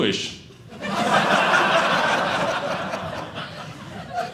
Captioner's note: audience laughing